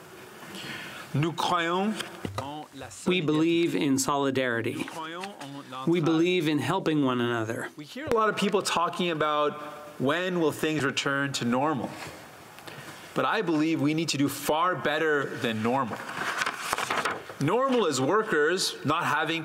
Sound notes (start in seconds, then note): 6.0 speaking French